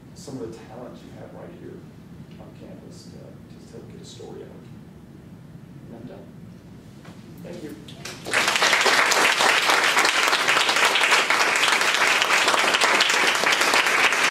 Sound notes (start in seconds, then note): 8.0 applause